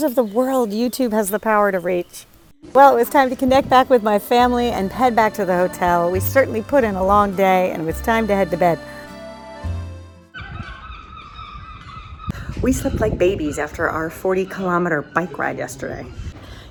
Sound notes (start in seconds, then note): 9.2 gentle music; 10.3 ducks squawking